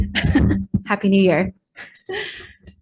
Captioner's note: laughs